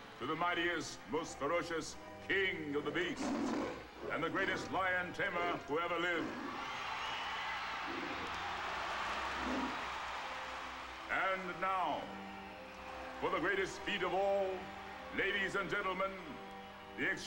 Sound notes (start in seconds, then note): 3.1 lion roaring; 9.0 applause